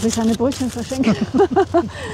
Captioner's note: laughs